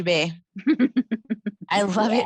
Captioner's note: chuckling